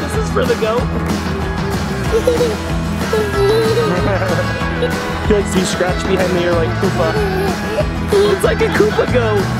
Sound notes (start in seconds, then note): 3.1 laughter